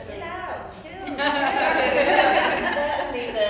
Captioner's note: laughs